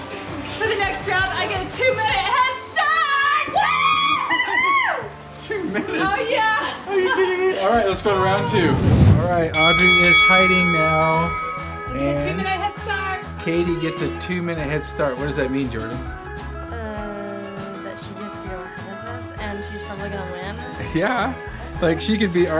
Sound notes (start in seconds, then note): 2.9 cheering; 9.5 bell dinging